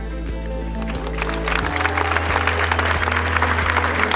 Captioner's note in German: Applaus